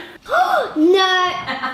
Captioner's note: gasps; laughs